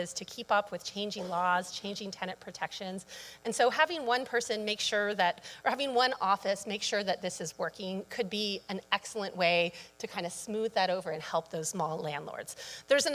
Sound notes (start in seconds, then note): none